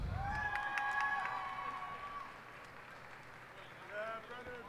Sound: cheers and applause

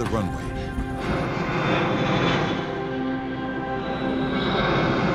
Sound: plane engine roars

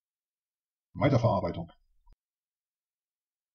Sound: fast Pronunciation

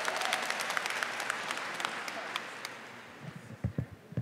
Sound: applause

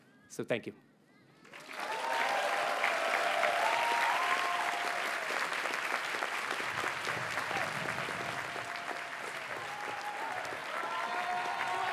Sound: audience cheers and applauds

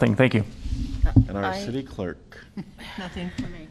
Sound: laughter

